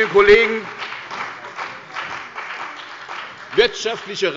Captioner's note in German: Beifall bei der CDU und dem BÜNDNIS 90/DIE GRÜNEN